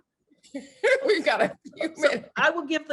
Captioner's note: laughs